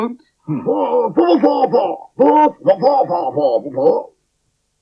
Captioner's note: Spencer Talks In Spider Language